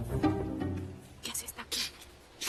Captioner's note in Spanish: Susurrando